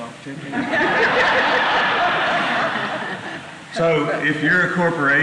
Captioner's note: laughter